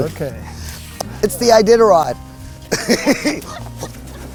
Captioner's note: laughs